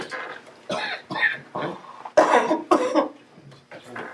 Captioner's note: Juanita coughs